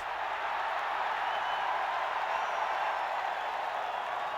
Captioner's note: crowd cheering